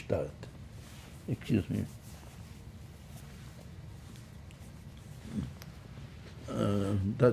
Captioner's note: wiping nose